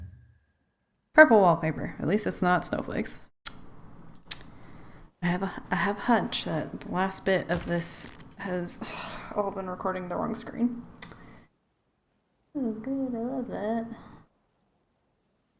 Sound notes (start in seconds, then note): 3.1 annoyed sounds; 8.5 sigh